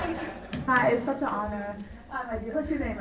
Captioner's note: laughter